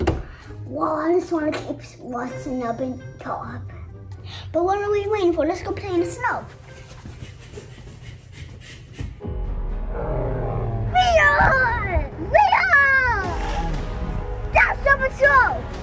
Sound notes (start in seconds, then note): 9.8 animals groaning